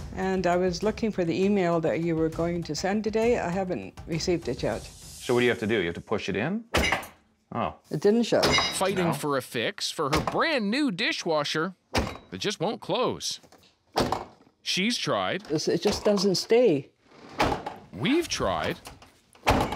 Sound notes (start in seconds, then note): 6.5 clinking